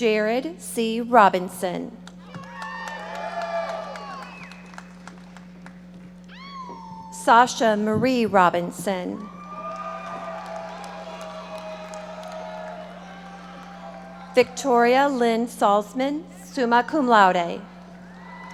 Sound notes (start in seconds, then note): 2.3 audience members shouting; 9.2 audience cheering and applauding